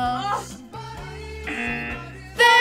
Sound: buzzer

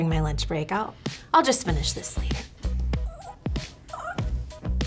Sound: lively electronic music; grunts

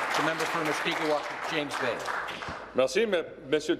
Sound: applause

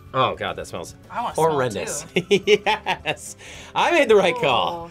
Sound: laughs

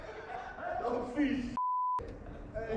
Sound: beep

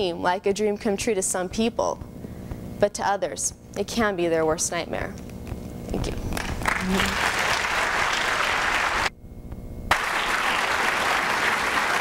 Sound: applause

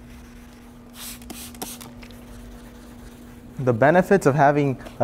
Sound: water spraying

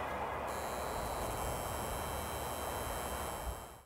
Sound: neon sign humming

